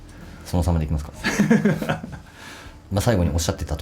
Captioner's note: laughs